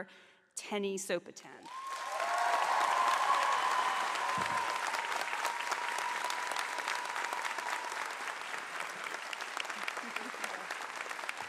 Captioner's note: cheers and applause